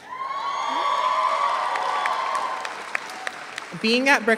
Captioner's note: audience applauds